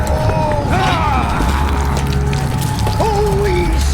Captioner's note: flesh squelches; Nash grunts